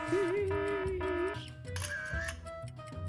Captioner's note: clock alarm blaring; background camera shutter clicking